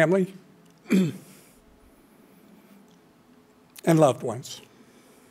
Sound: clears throat

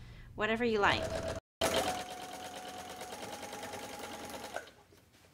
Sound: machine whirs

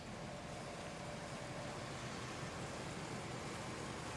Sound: car engine

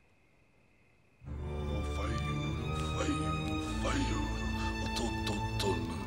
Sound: non-english speech

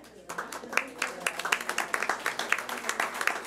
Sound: clapping

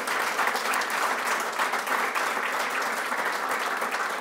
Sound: crowd applauding

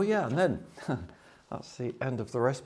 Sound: chuckles

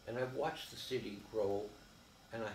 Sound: none

